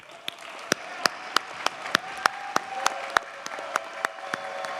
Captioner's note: audience cheers and applauds